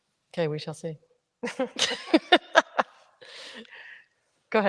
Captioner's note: ladies chuckle